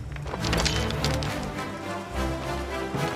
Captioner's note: stones crunching